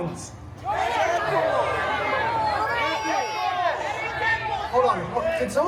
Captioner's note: guests shouting answers